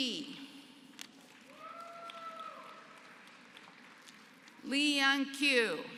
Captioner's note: applause